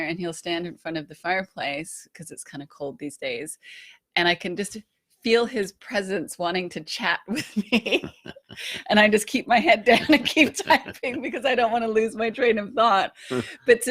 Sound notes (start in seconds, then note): 7.4 laughing